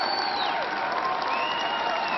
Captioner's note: applause